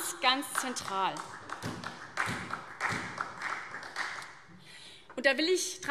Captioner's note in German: Beifall SPD